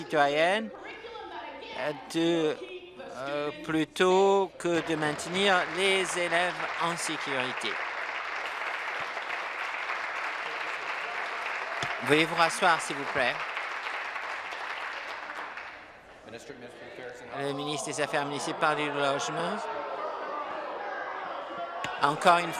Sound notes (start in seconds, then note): 12.3 applause